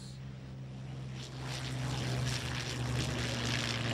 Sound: planes zooming

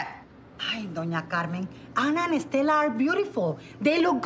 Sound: speaks foreign langauge

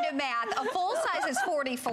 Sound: laughter

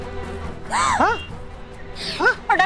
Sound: gasps

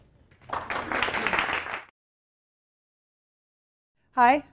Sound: audience applauds

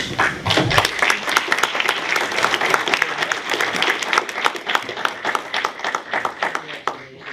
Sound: applause

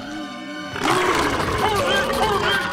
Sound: belching

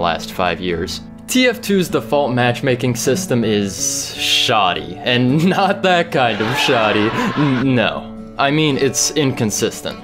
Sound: laugh track

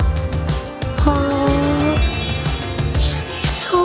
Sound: magical trill

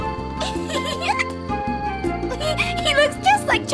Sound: giggle

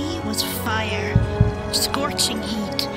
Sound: heartbeat

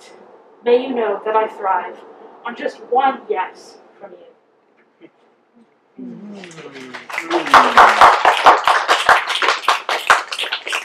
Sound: mmm, applause and snaps

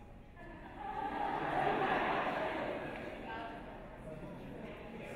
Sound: audience laughs

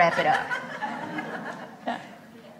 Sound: laughs

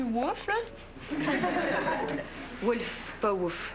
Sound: Rires

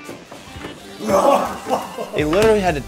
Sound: man laughing

